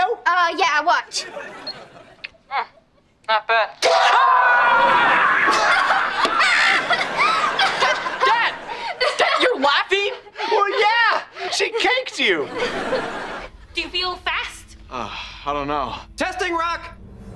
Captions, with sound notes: Uh yeah. Watch. Hmmm, not bad. [screaming] [laughing] Dad, Dad, you're laughing? Well, yeah! She caked you! Do you feel fast? - Oh, I don’t know. - Testing rock!